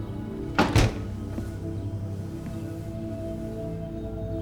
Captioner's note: door thudding